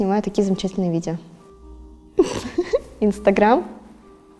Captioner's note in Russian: смех